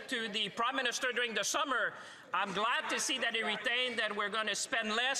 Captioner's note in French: voix de l'interprète